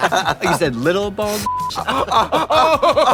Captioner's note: beeping